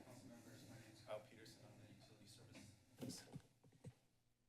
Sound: background conversations

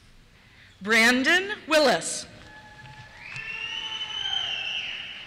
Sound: cheers

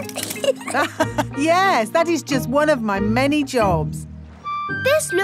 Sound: laughs

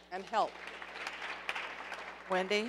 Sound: audience applauding

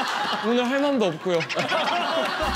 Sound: laughing

